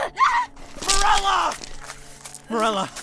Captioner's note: screams in pain